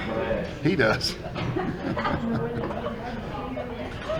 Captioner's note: they laugh